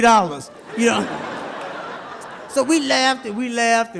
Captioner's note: audience laughs